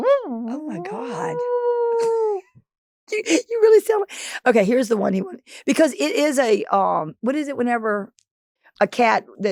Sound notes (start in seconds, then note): 0.4 Delta purring